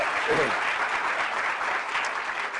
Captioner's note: applause